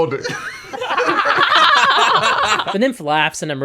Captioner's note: laughter